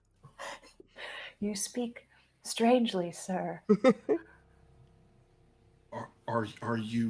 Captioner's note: people chuckling; person chuckling